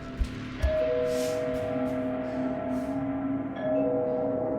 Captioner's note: doorbell ringing